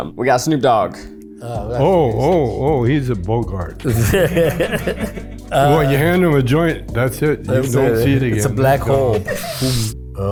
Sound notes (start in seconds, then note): 3.7 group laughs